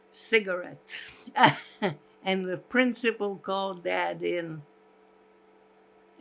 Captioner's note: laughing